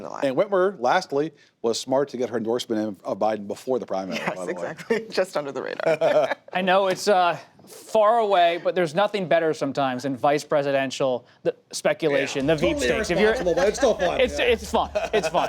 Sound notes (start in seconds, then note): 5.8 laughs; 5.8 laughter